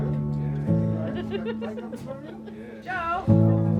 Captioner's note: laughing